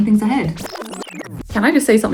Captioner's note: film squeals